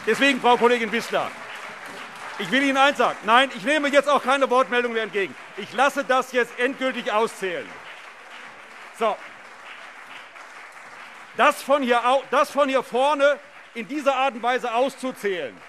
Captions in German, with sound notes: Frau Kollegin Wissler, ich will Ihnen eines sagen: Ich nehme jetzt auch keine Wortmeldungen mehr entgegen; ich lasse das jetzt endgültig auszählen. (Beifall CDU und BÜNDNIS 90/DIE GRÜNEN) Das von hier vorne aus in dieser Art und Weise so auszuzählen